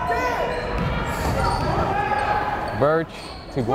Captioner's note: yelling